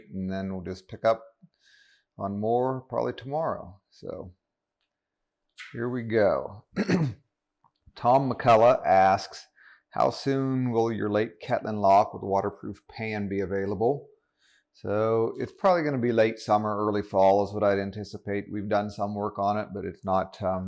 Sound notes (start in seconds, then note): 6.7 coughs